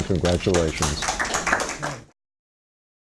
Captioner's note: applause